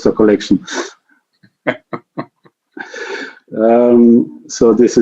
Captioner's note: laughs